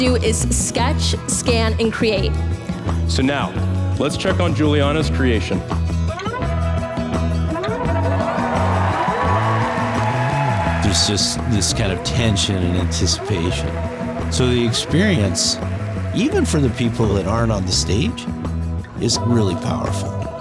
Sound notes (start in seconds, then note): 6.7 crowd cheering; 6.7 light upbeat music